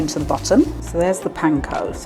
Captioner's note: sprinkling